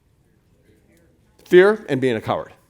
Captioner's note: crowd